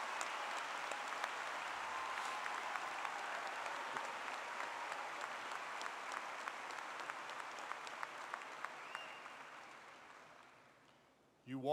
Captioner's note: applause